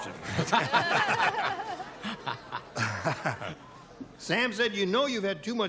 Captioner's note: laughter